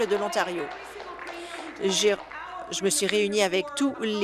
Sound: applause

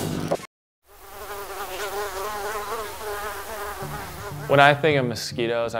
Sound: mosquito buzzing

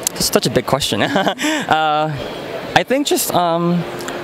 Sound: laughs

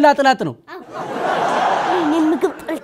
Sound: laughter

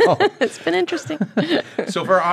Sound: laughter

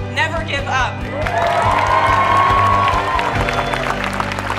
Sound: people cheering

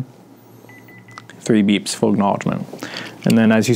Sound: beeping

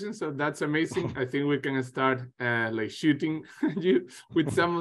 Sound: chuckles

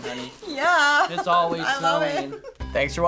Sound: chuckles

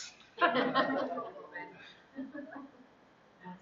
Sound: laughter

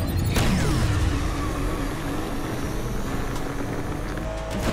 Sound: timer booming; cars accelerating

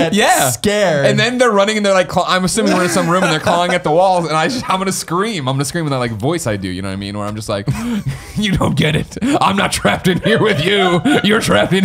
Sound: evil laugh

